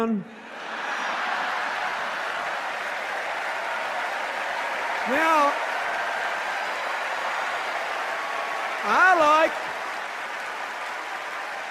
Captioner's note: laughter, sustained cheers and applause